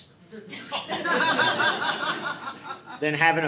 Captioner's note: audience laughing